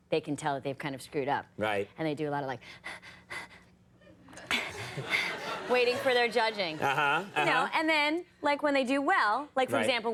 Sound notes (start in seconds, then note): 2.7 woman pants; 4.3 audience laughs